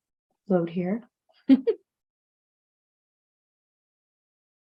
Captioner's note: chuckling